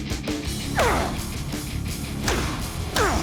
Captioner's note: grunting; dramatic rock music playing